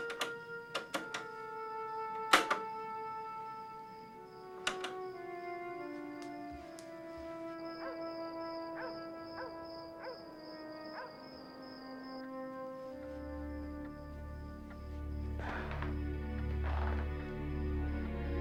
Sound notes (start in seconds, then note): 8.6 dog barking; 10.3 crickets chirping; 13.3 soft suspenseful music